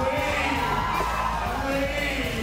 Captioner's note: cheers and applause